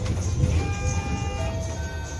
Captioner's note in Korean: 하차벨 소리